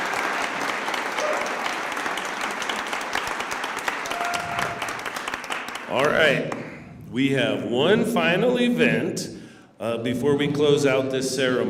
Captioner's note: cheers and applause